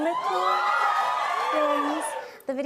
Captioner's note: cheers and applause